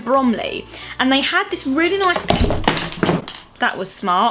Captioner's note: box drops on to the floor